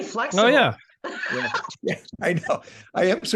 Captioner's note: laughing